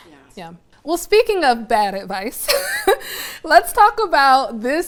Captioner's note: laughs